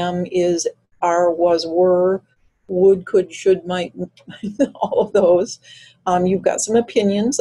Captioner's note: chuckles